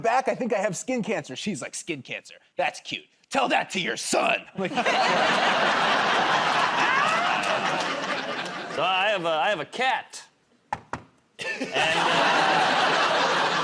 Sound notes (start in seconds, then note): 6.5 laughter; 10.7 knocks on table